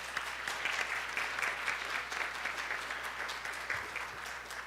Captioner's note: applause